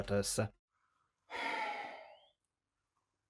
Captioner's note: sighs